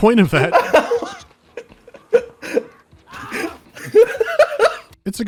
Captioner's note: laughing hysterically